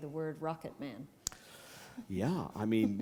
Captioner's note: chuckle